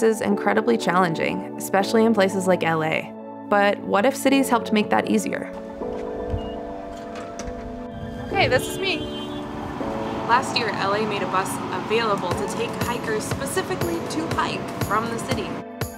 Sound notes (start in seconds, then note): 6.3 machine beeps